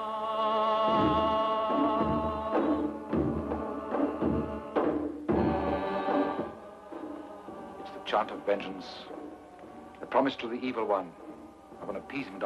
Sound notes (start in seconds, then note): 1.5 drums banging; 3.1 people chanting